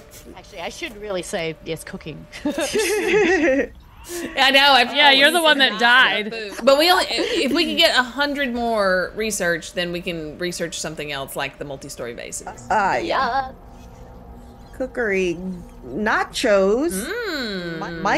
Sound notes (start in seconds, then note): 3.9 laugh